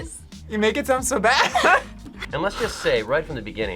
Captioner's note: both laugh